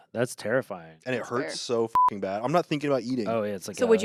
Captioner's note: beep